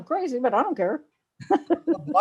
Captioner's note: laughs